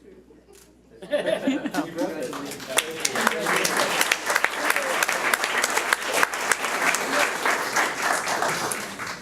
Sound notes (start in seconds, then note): 1.0 audience laughs; 3.6 audience applauds